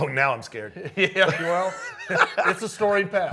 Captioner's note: both laughing